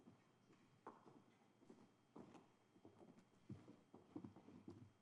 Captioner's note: footsteps clattering